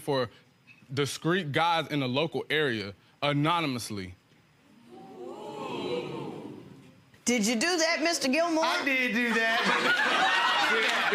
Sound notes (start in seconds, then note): 4.8 audience murmurs; 9.3 audience laughing